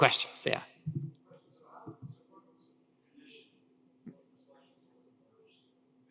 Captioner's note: speaker speaking faintly